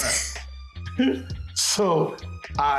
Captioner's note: chuckling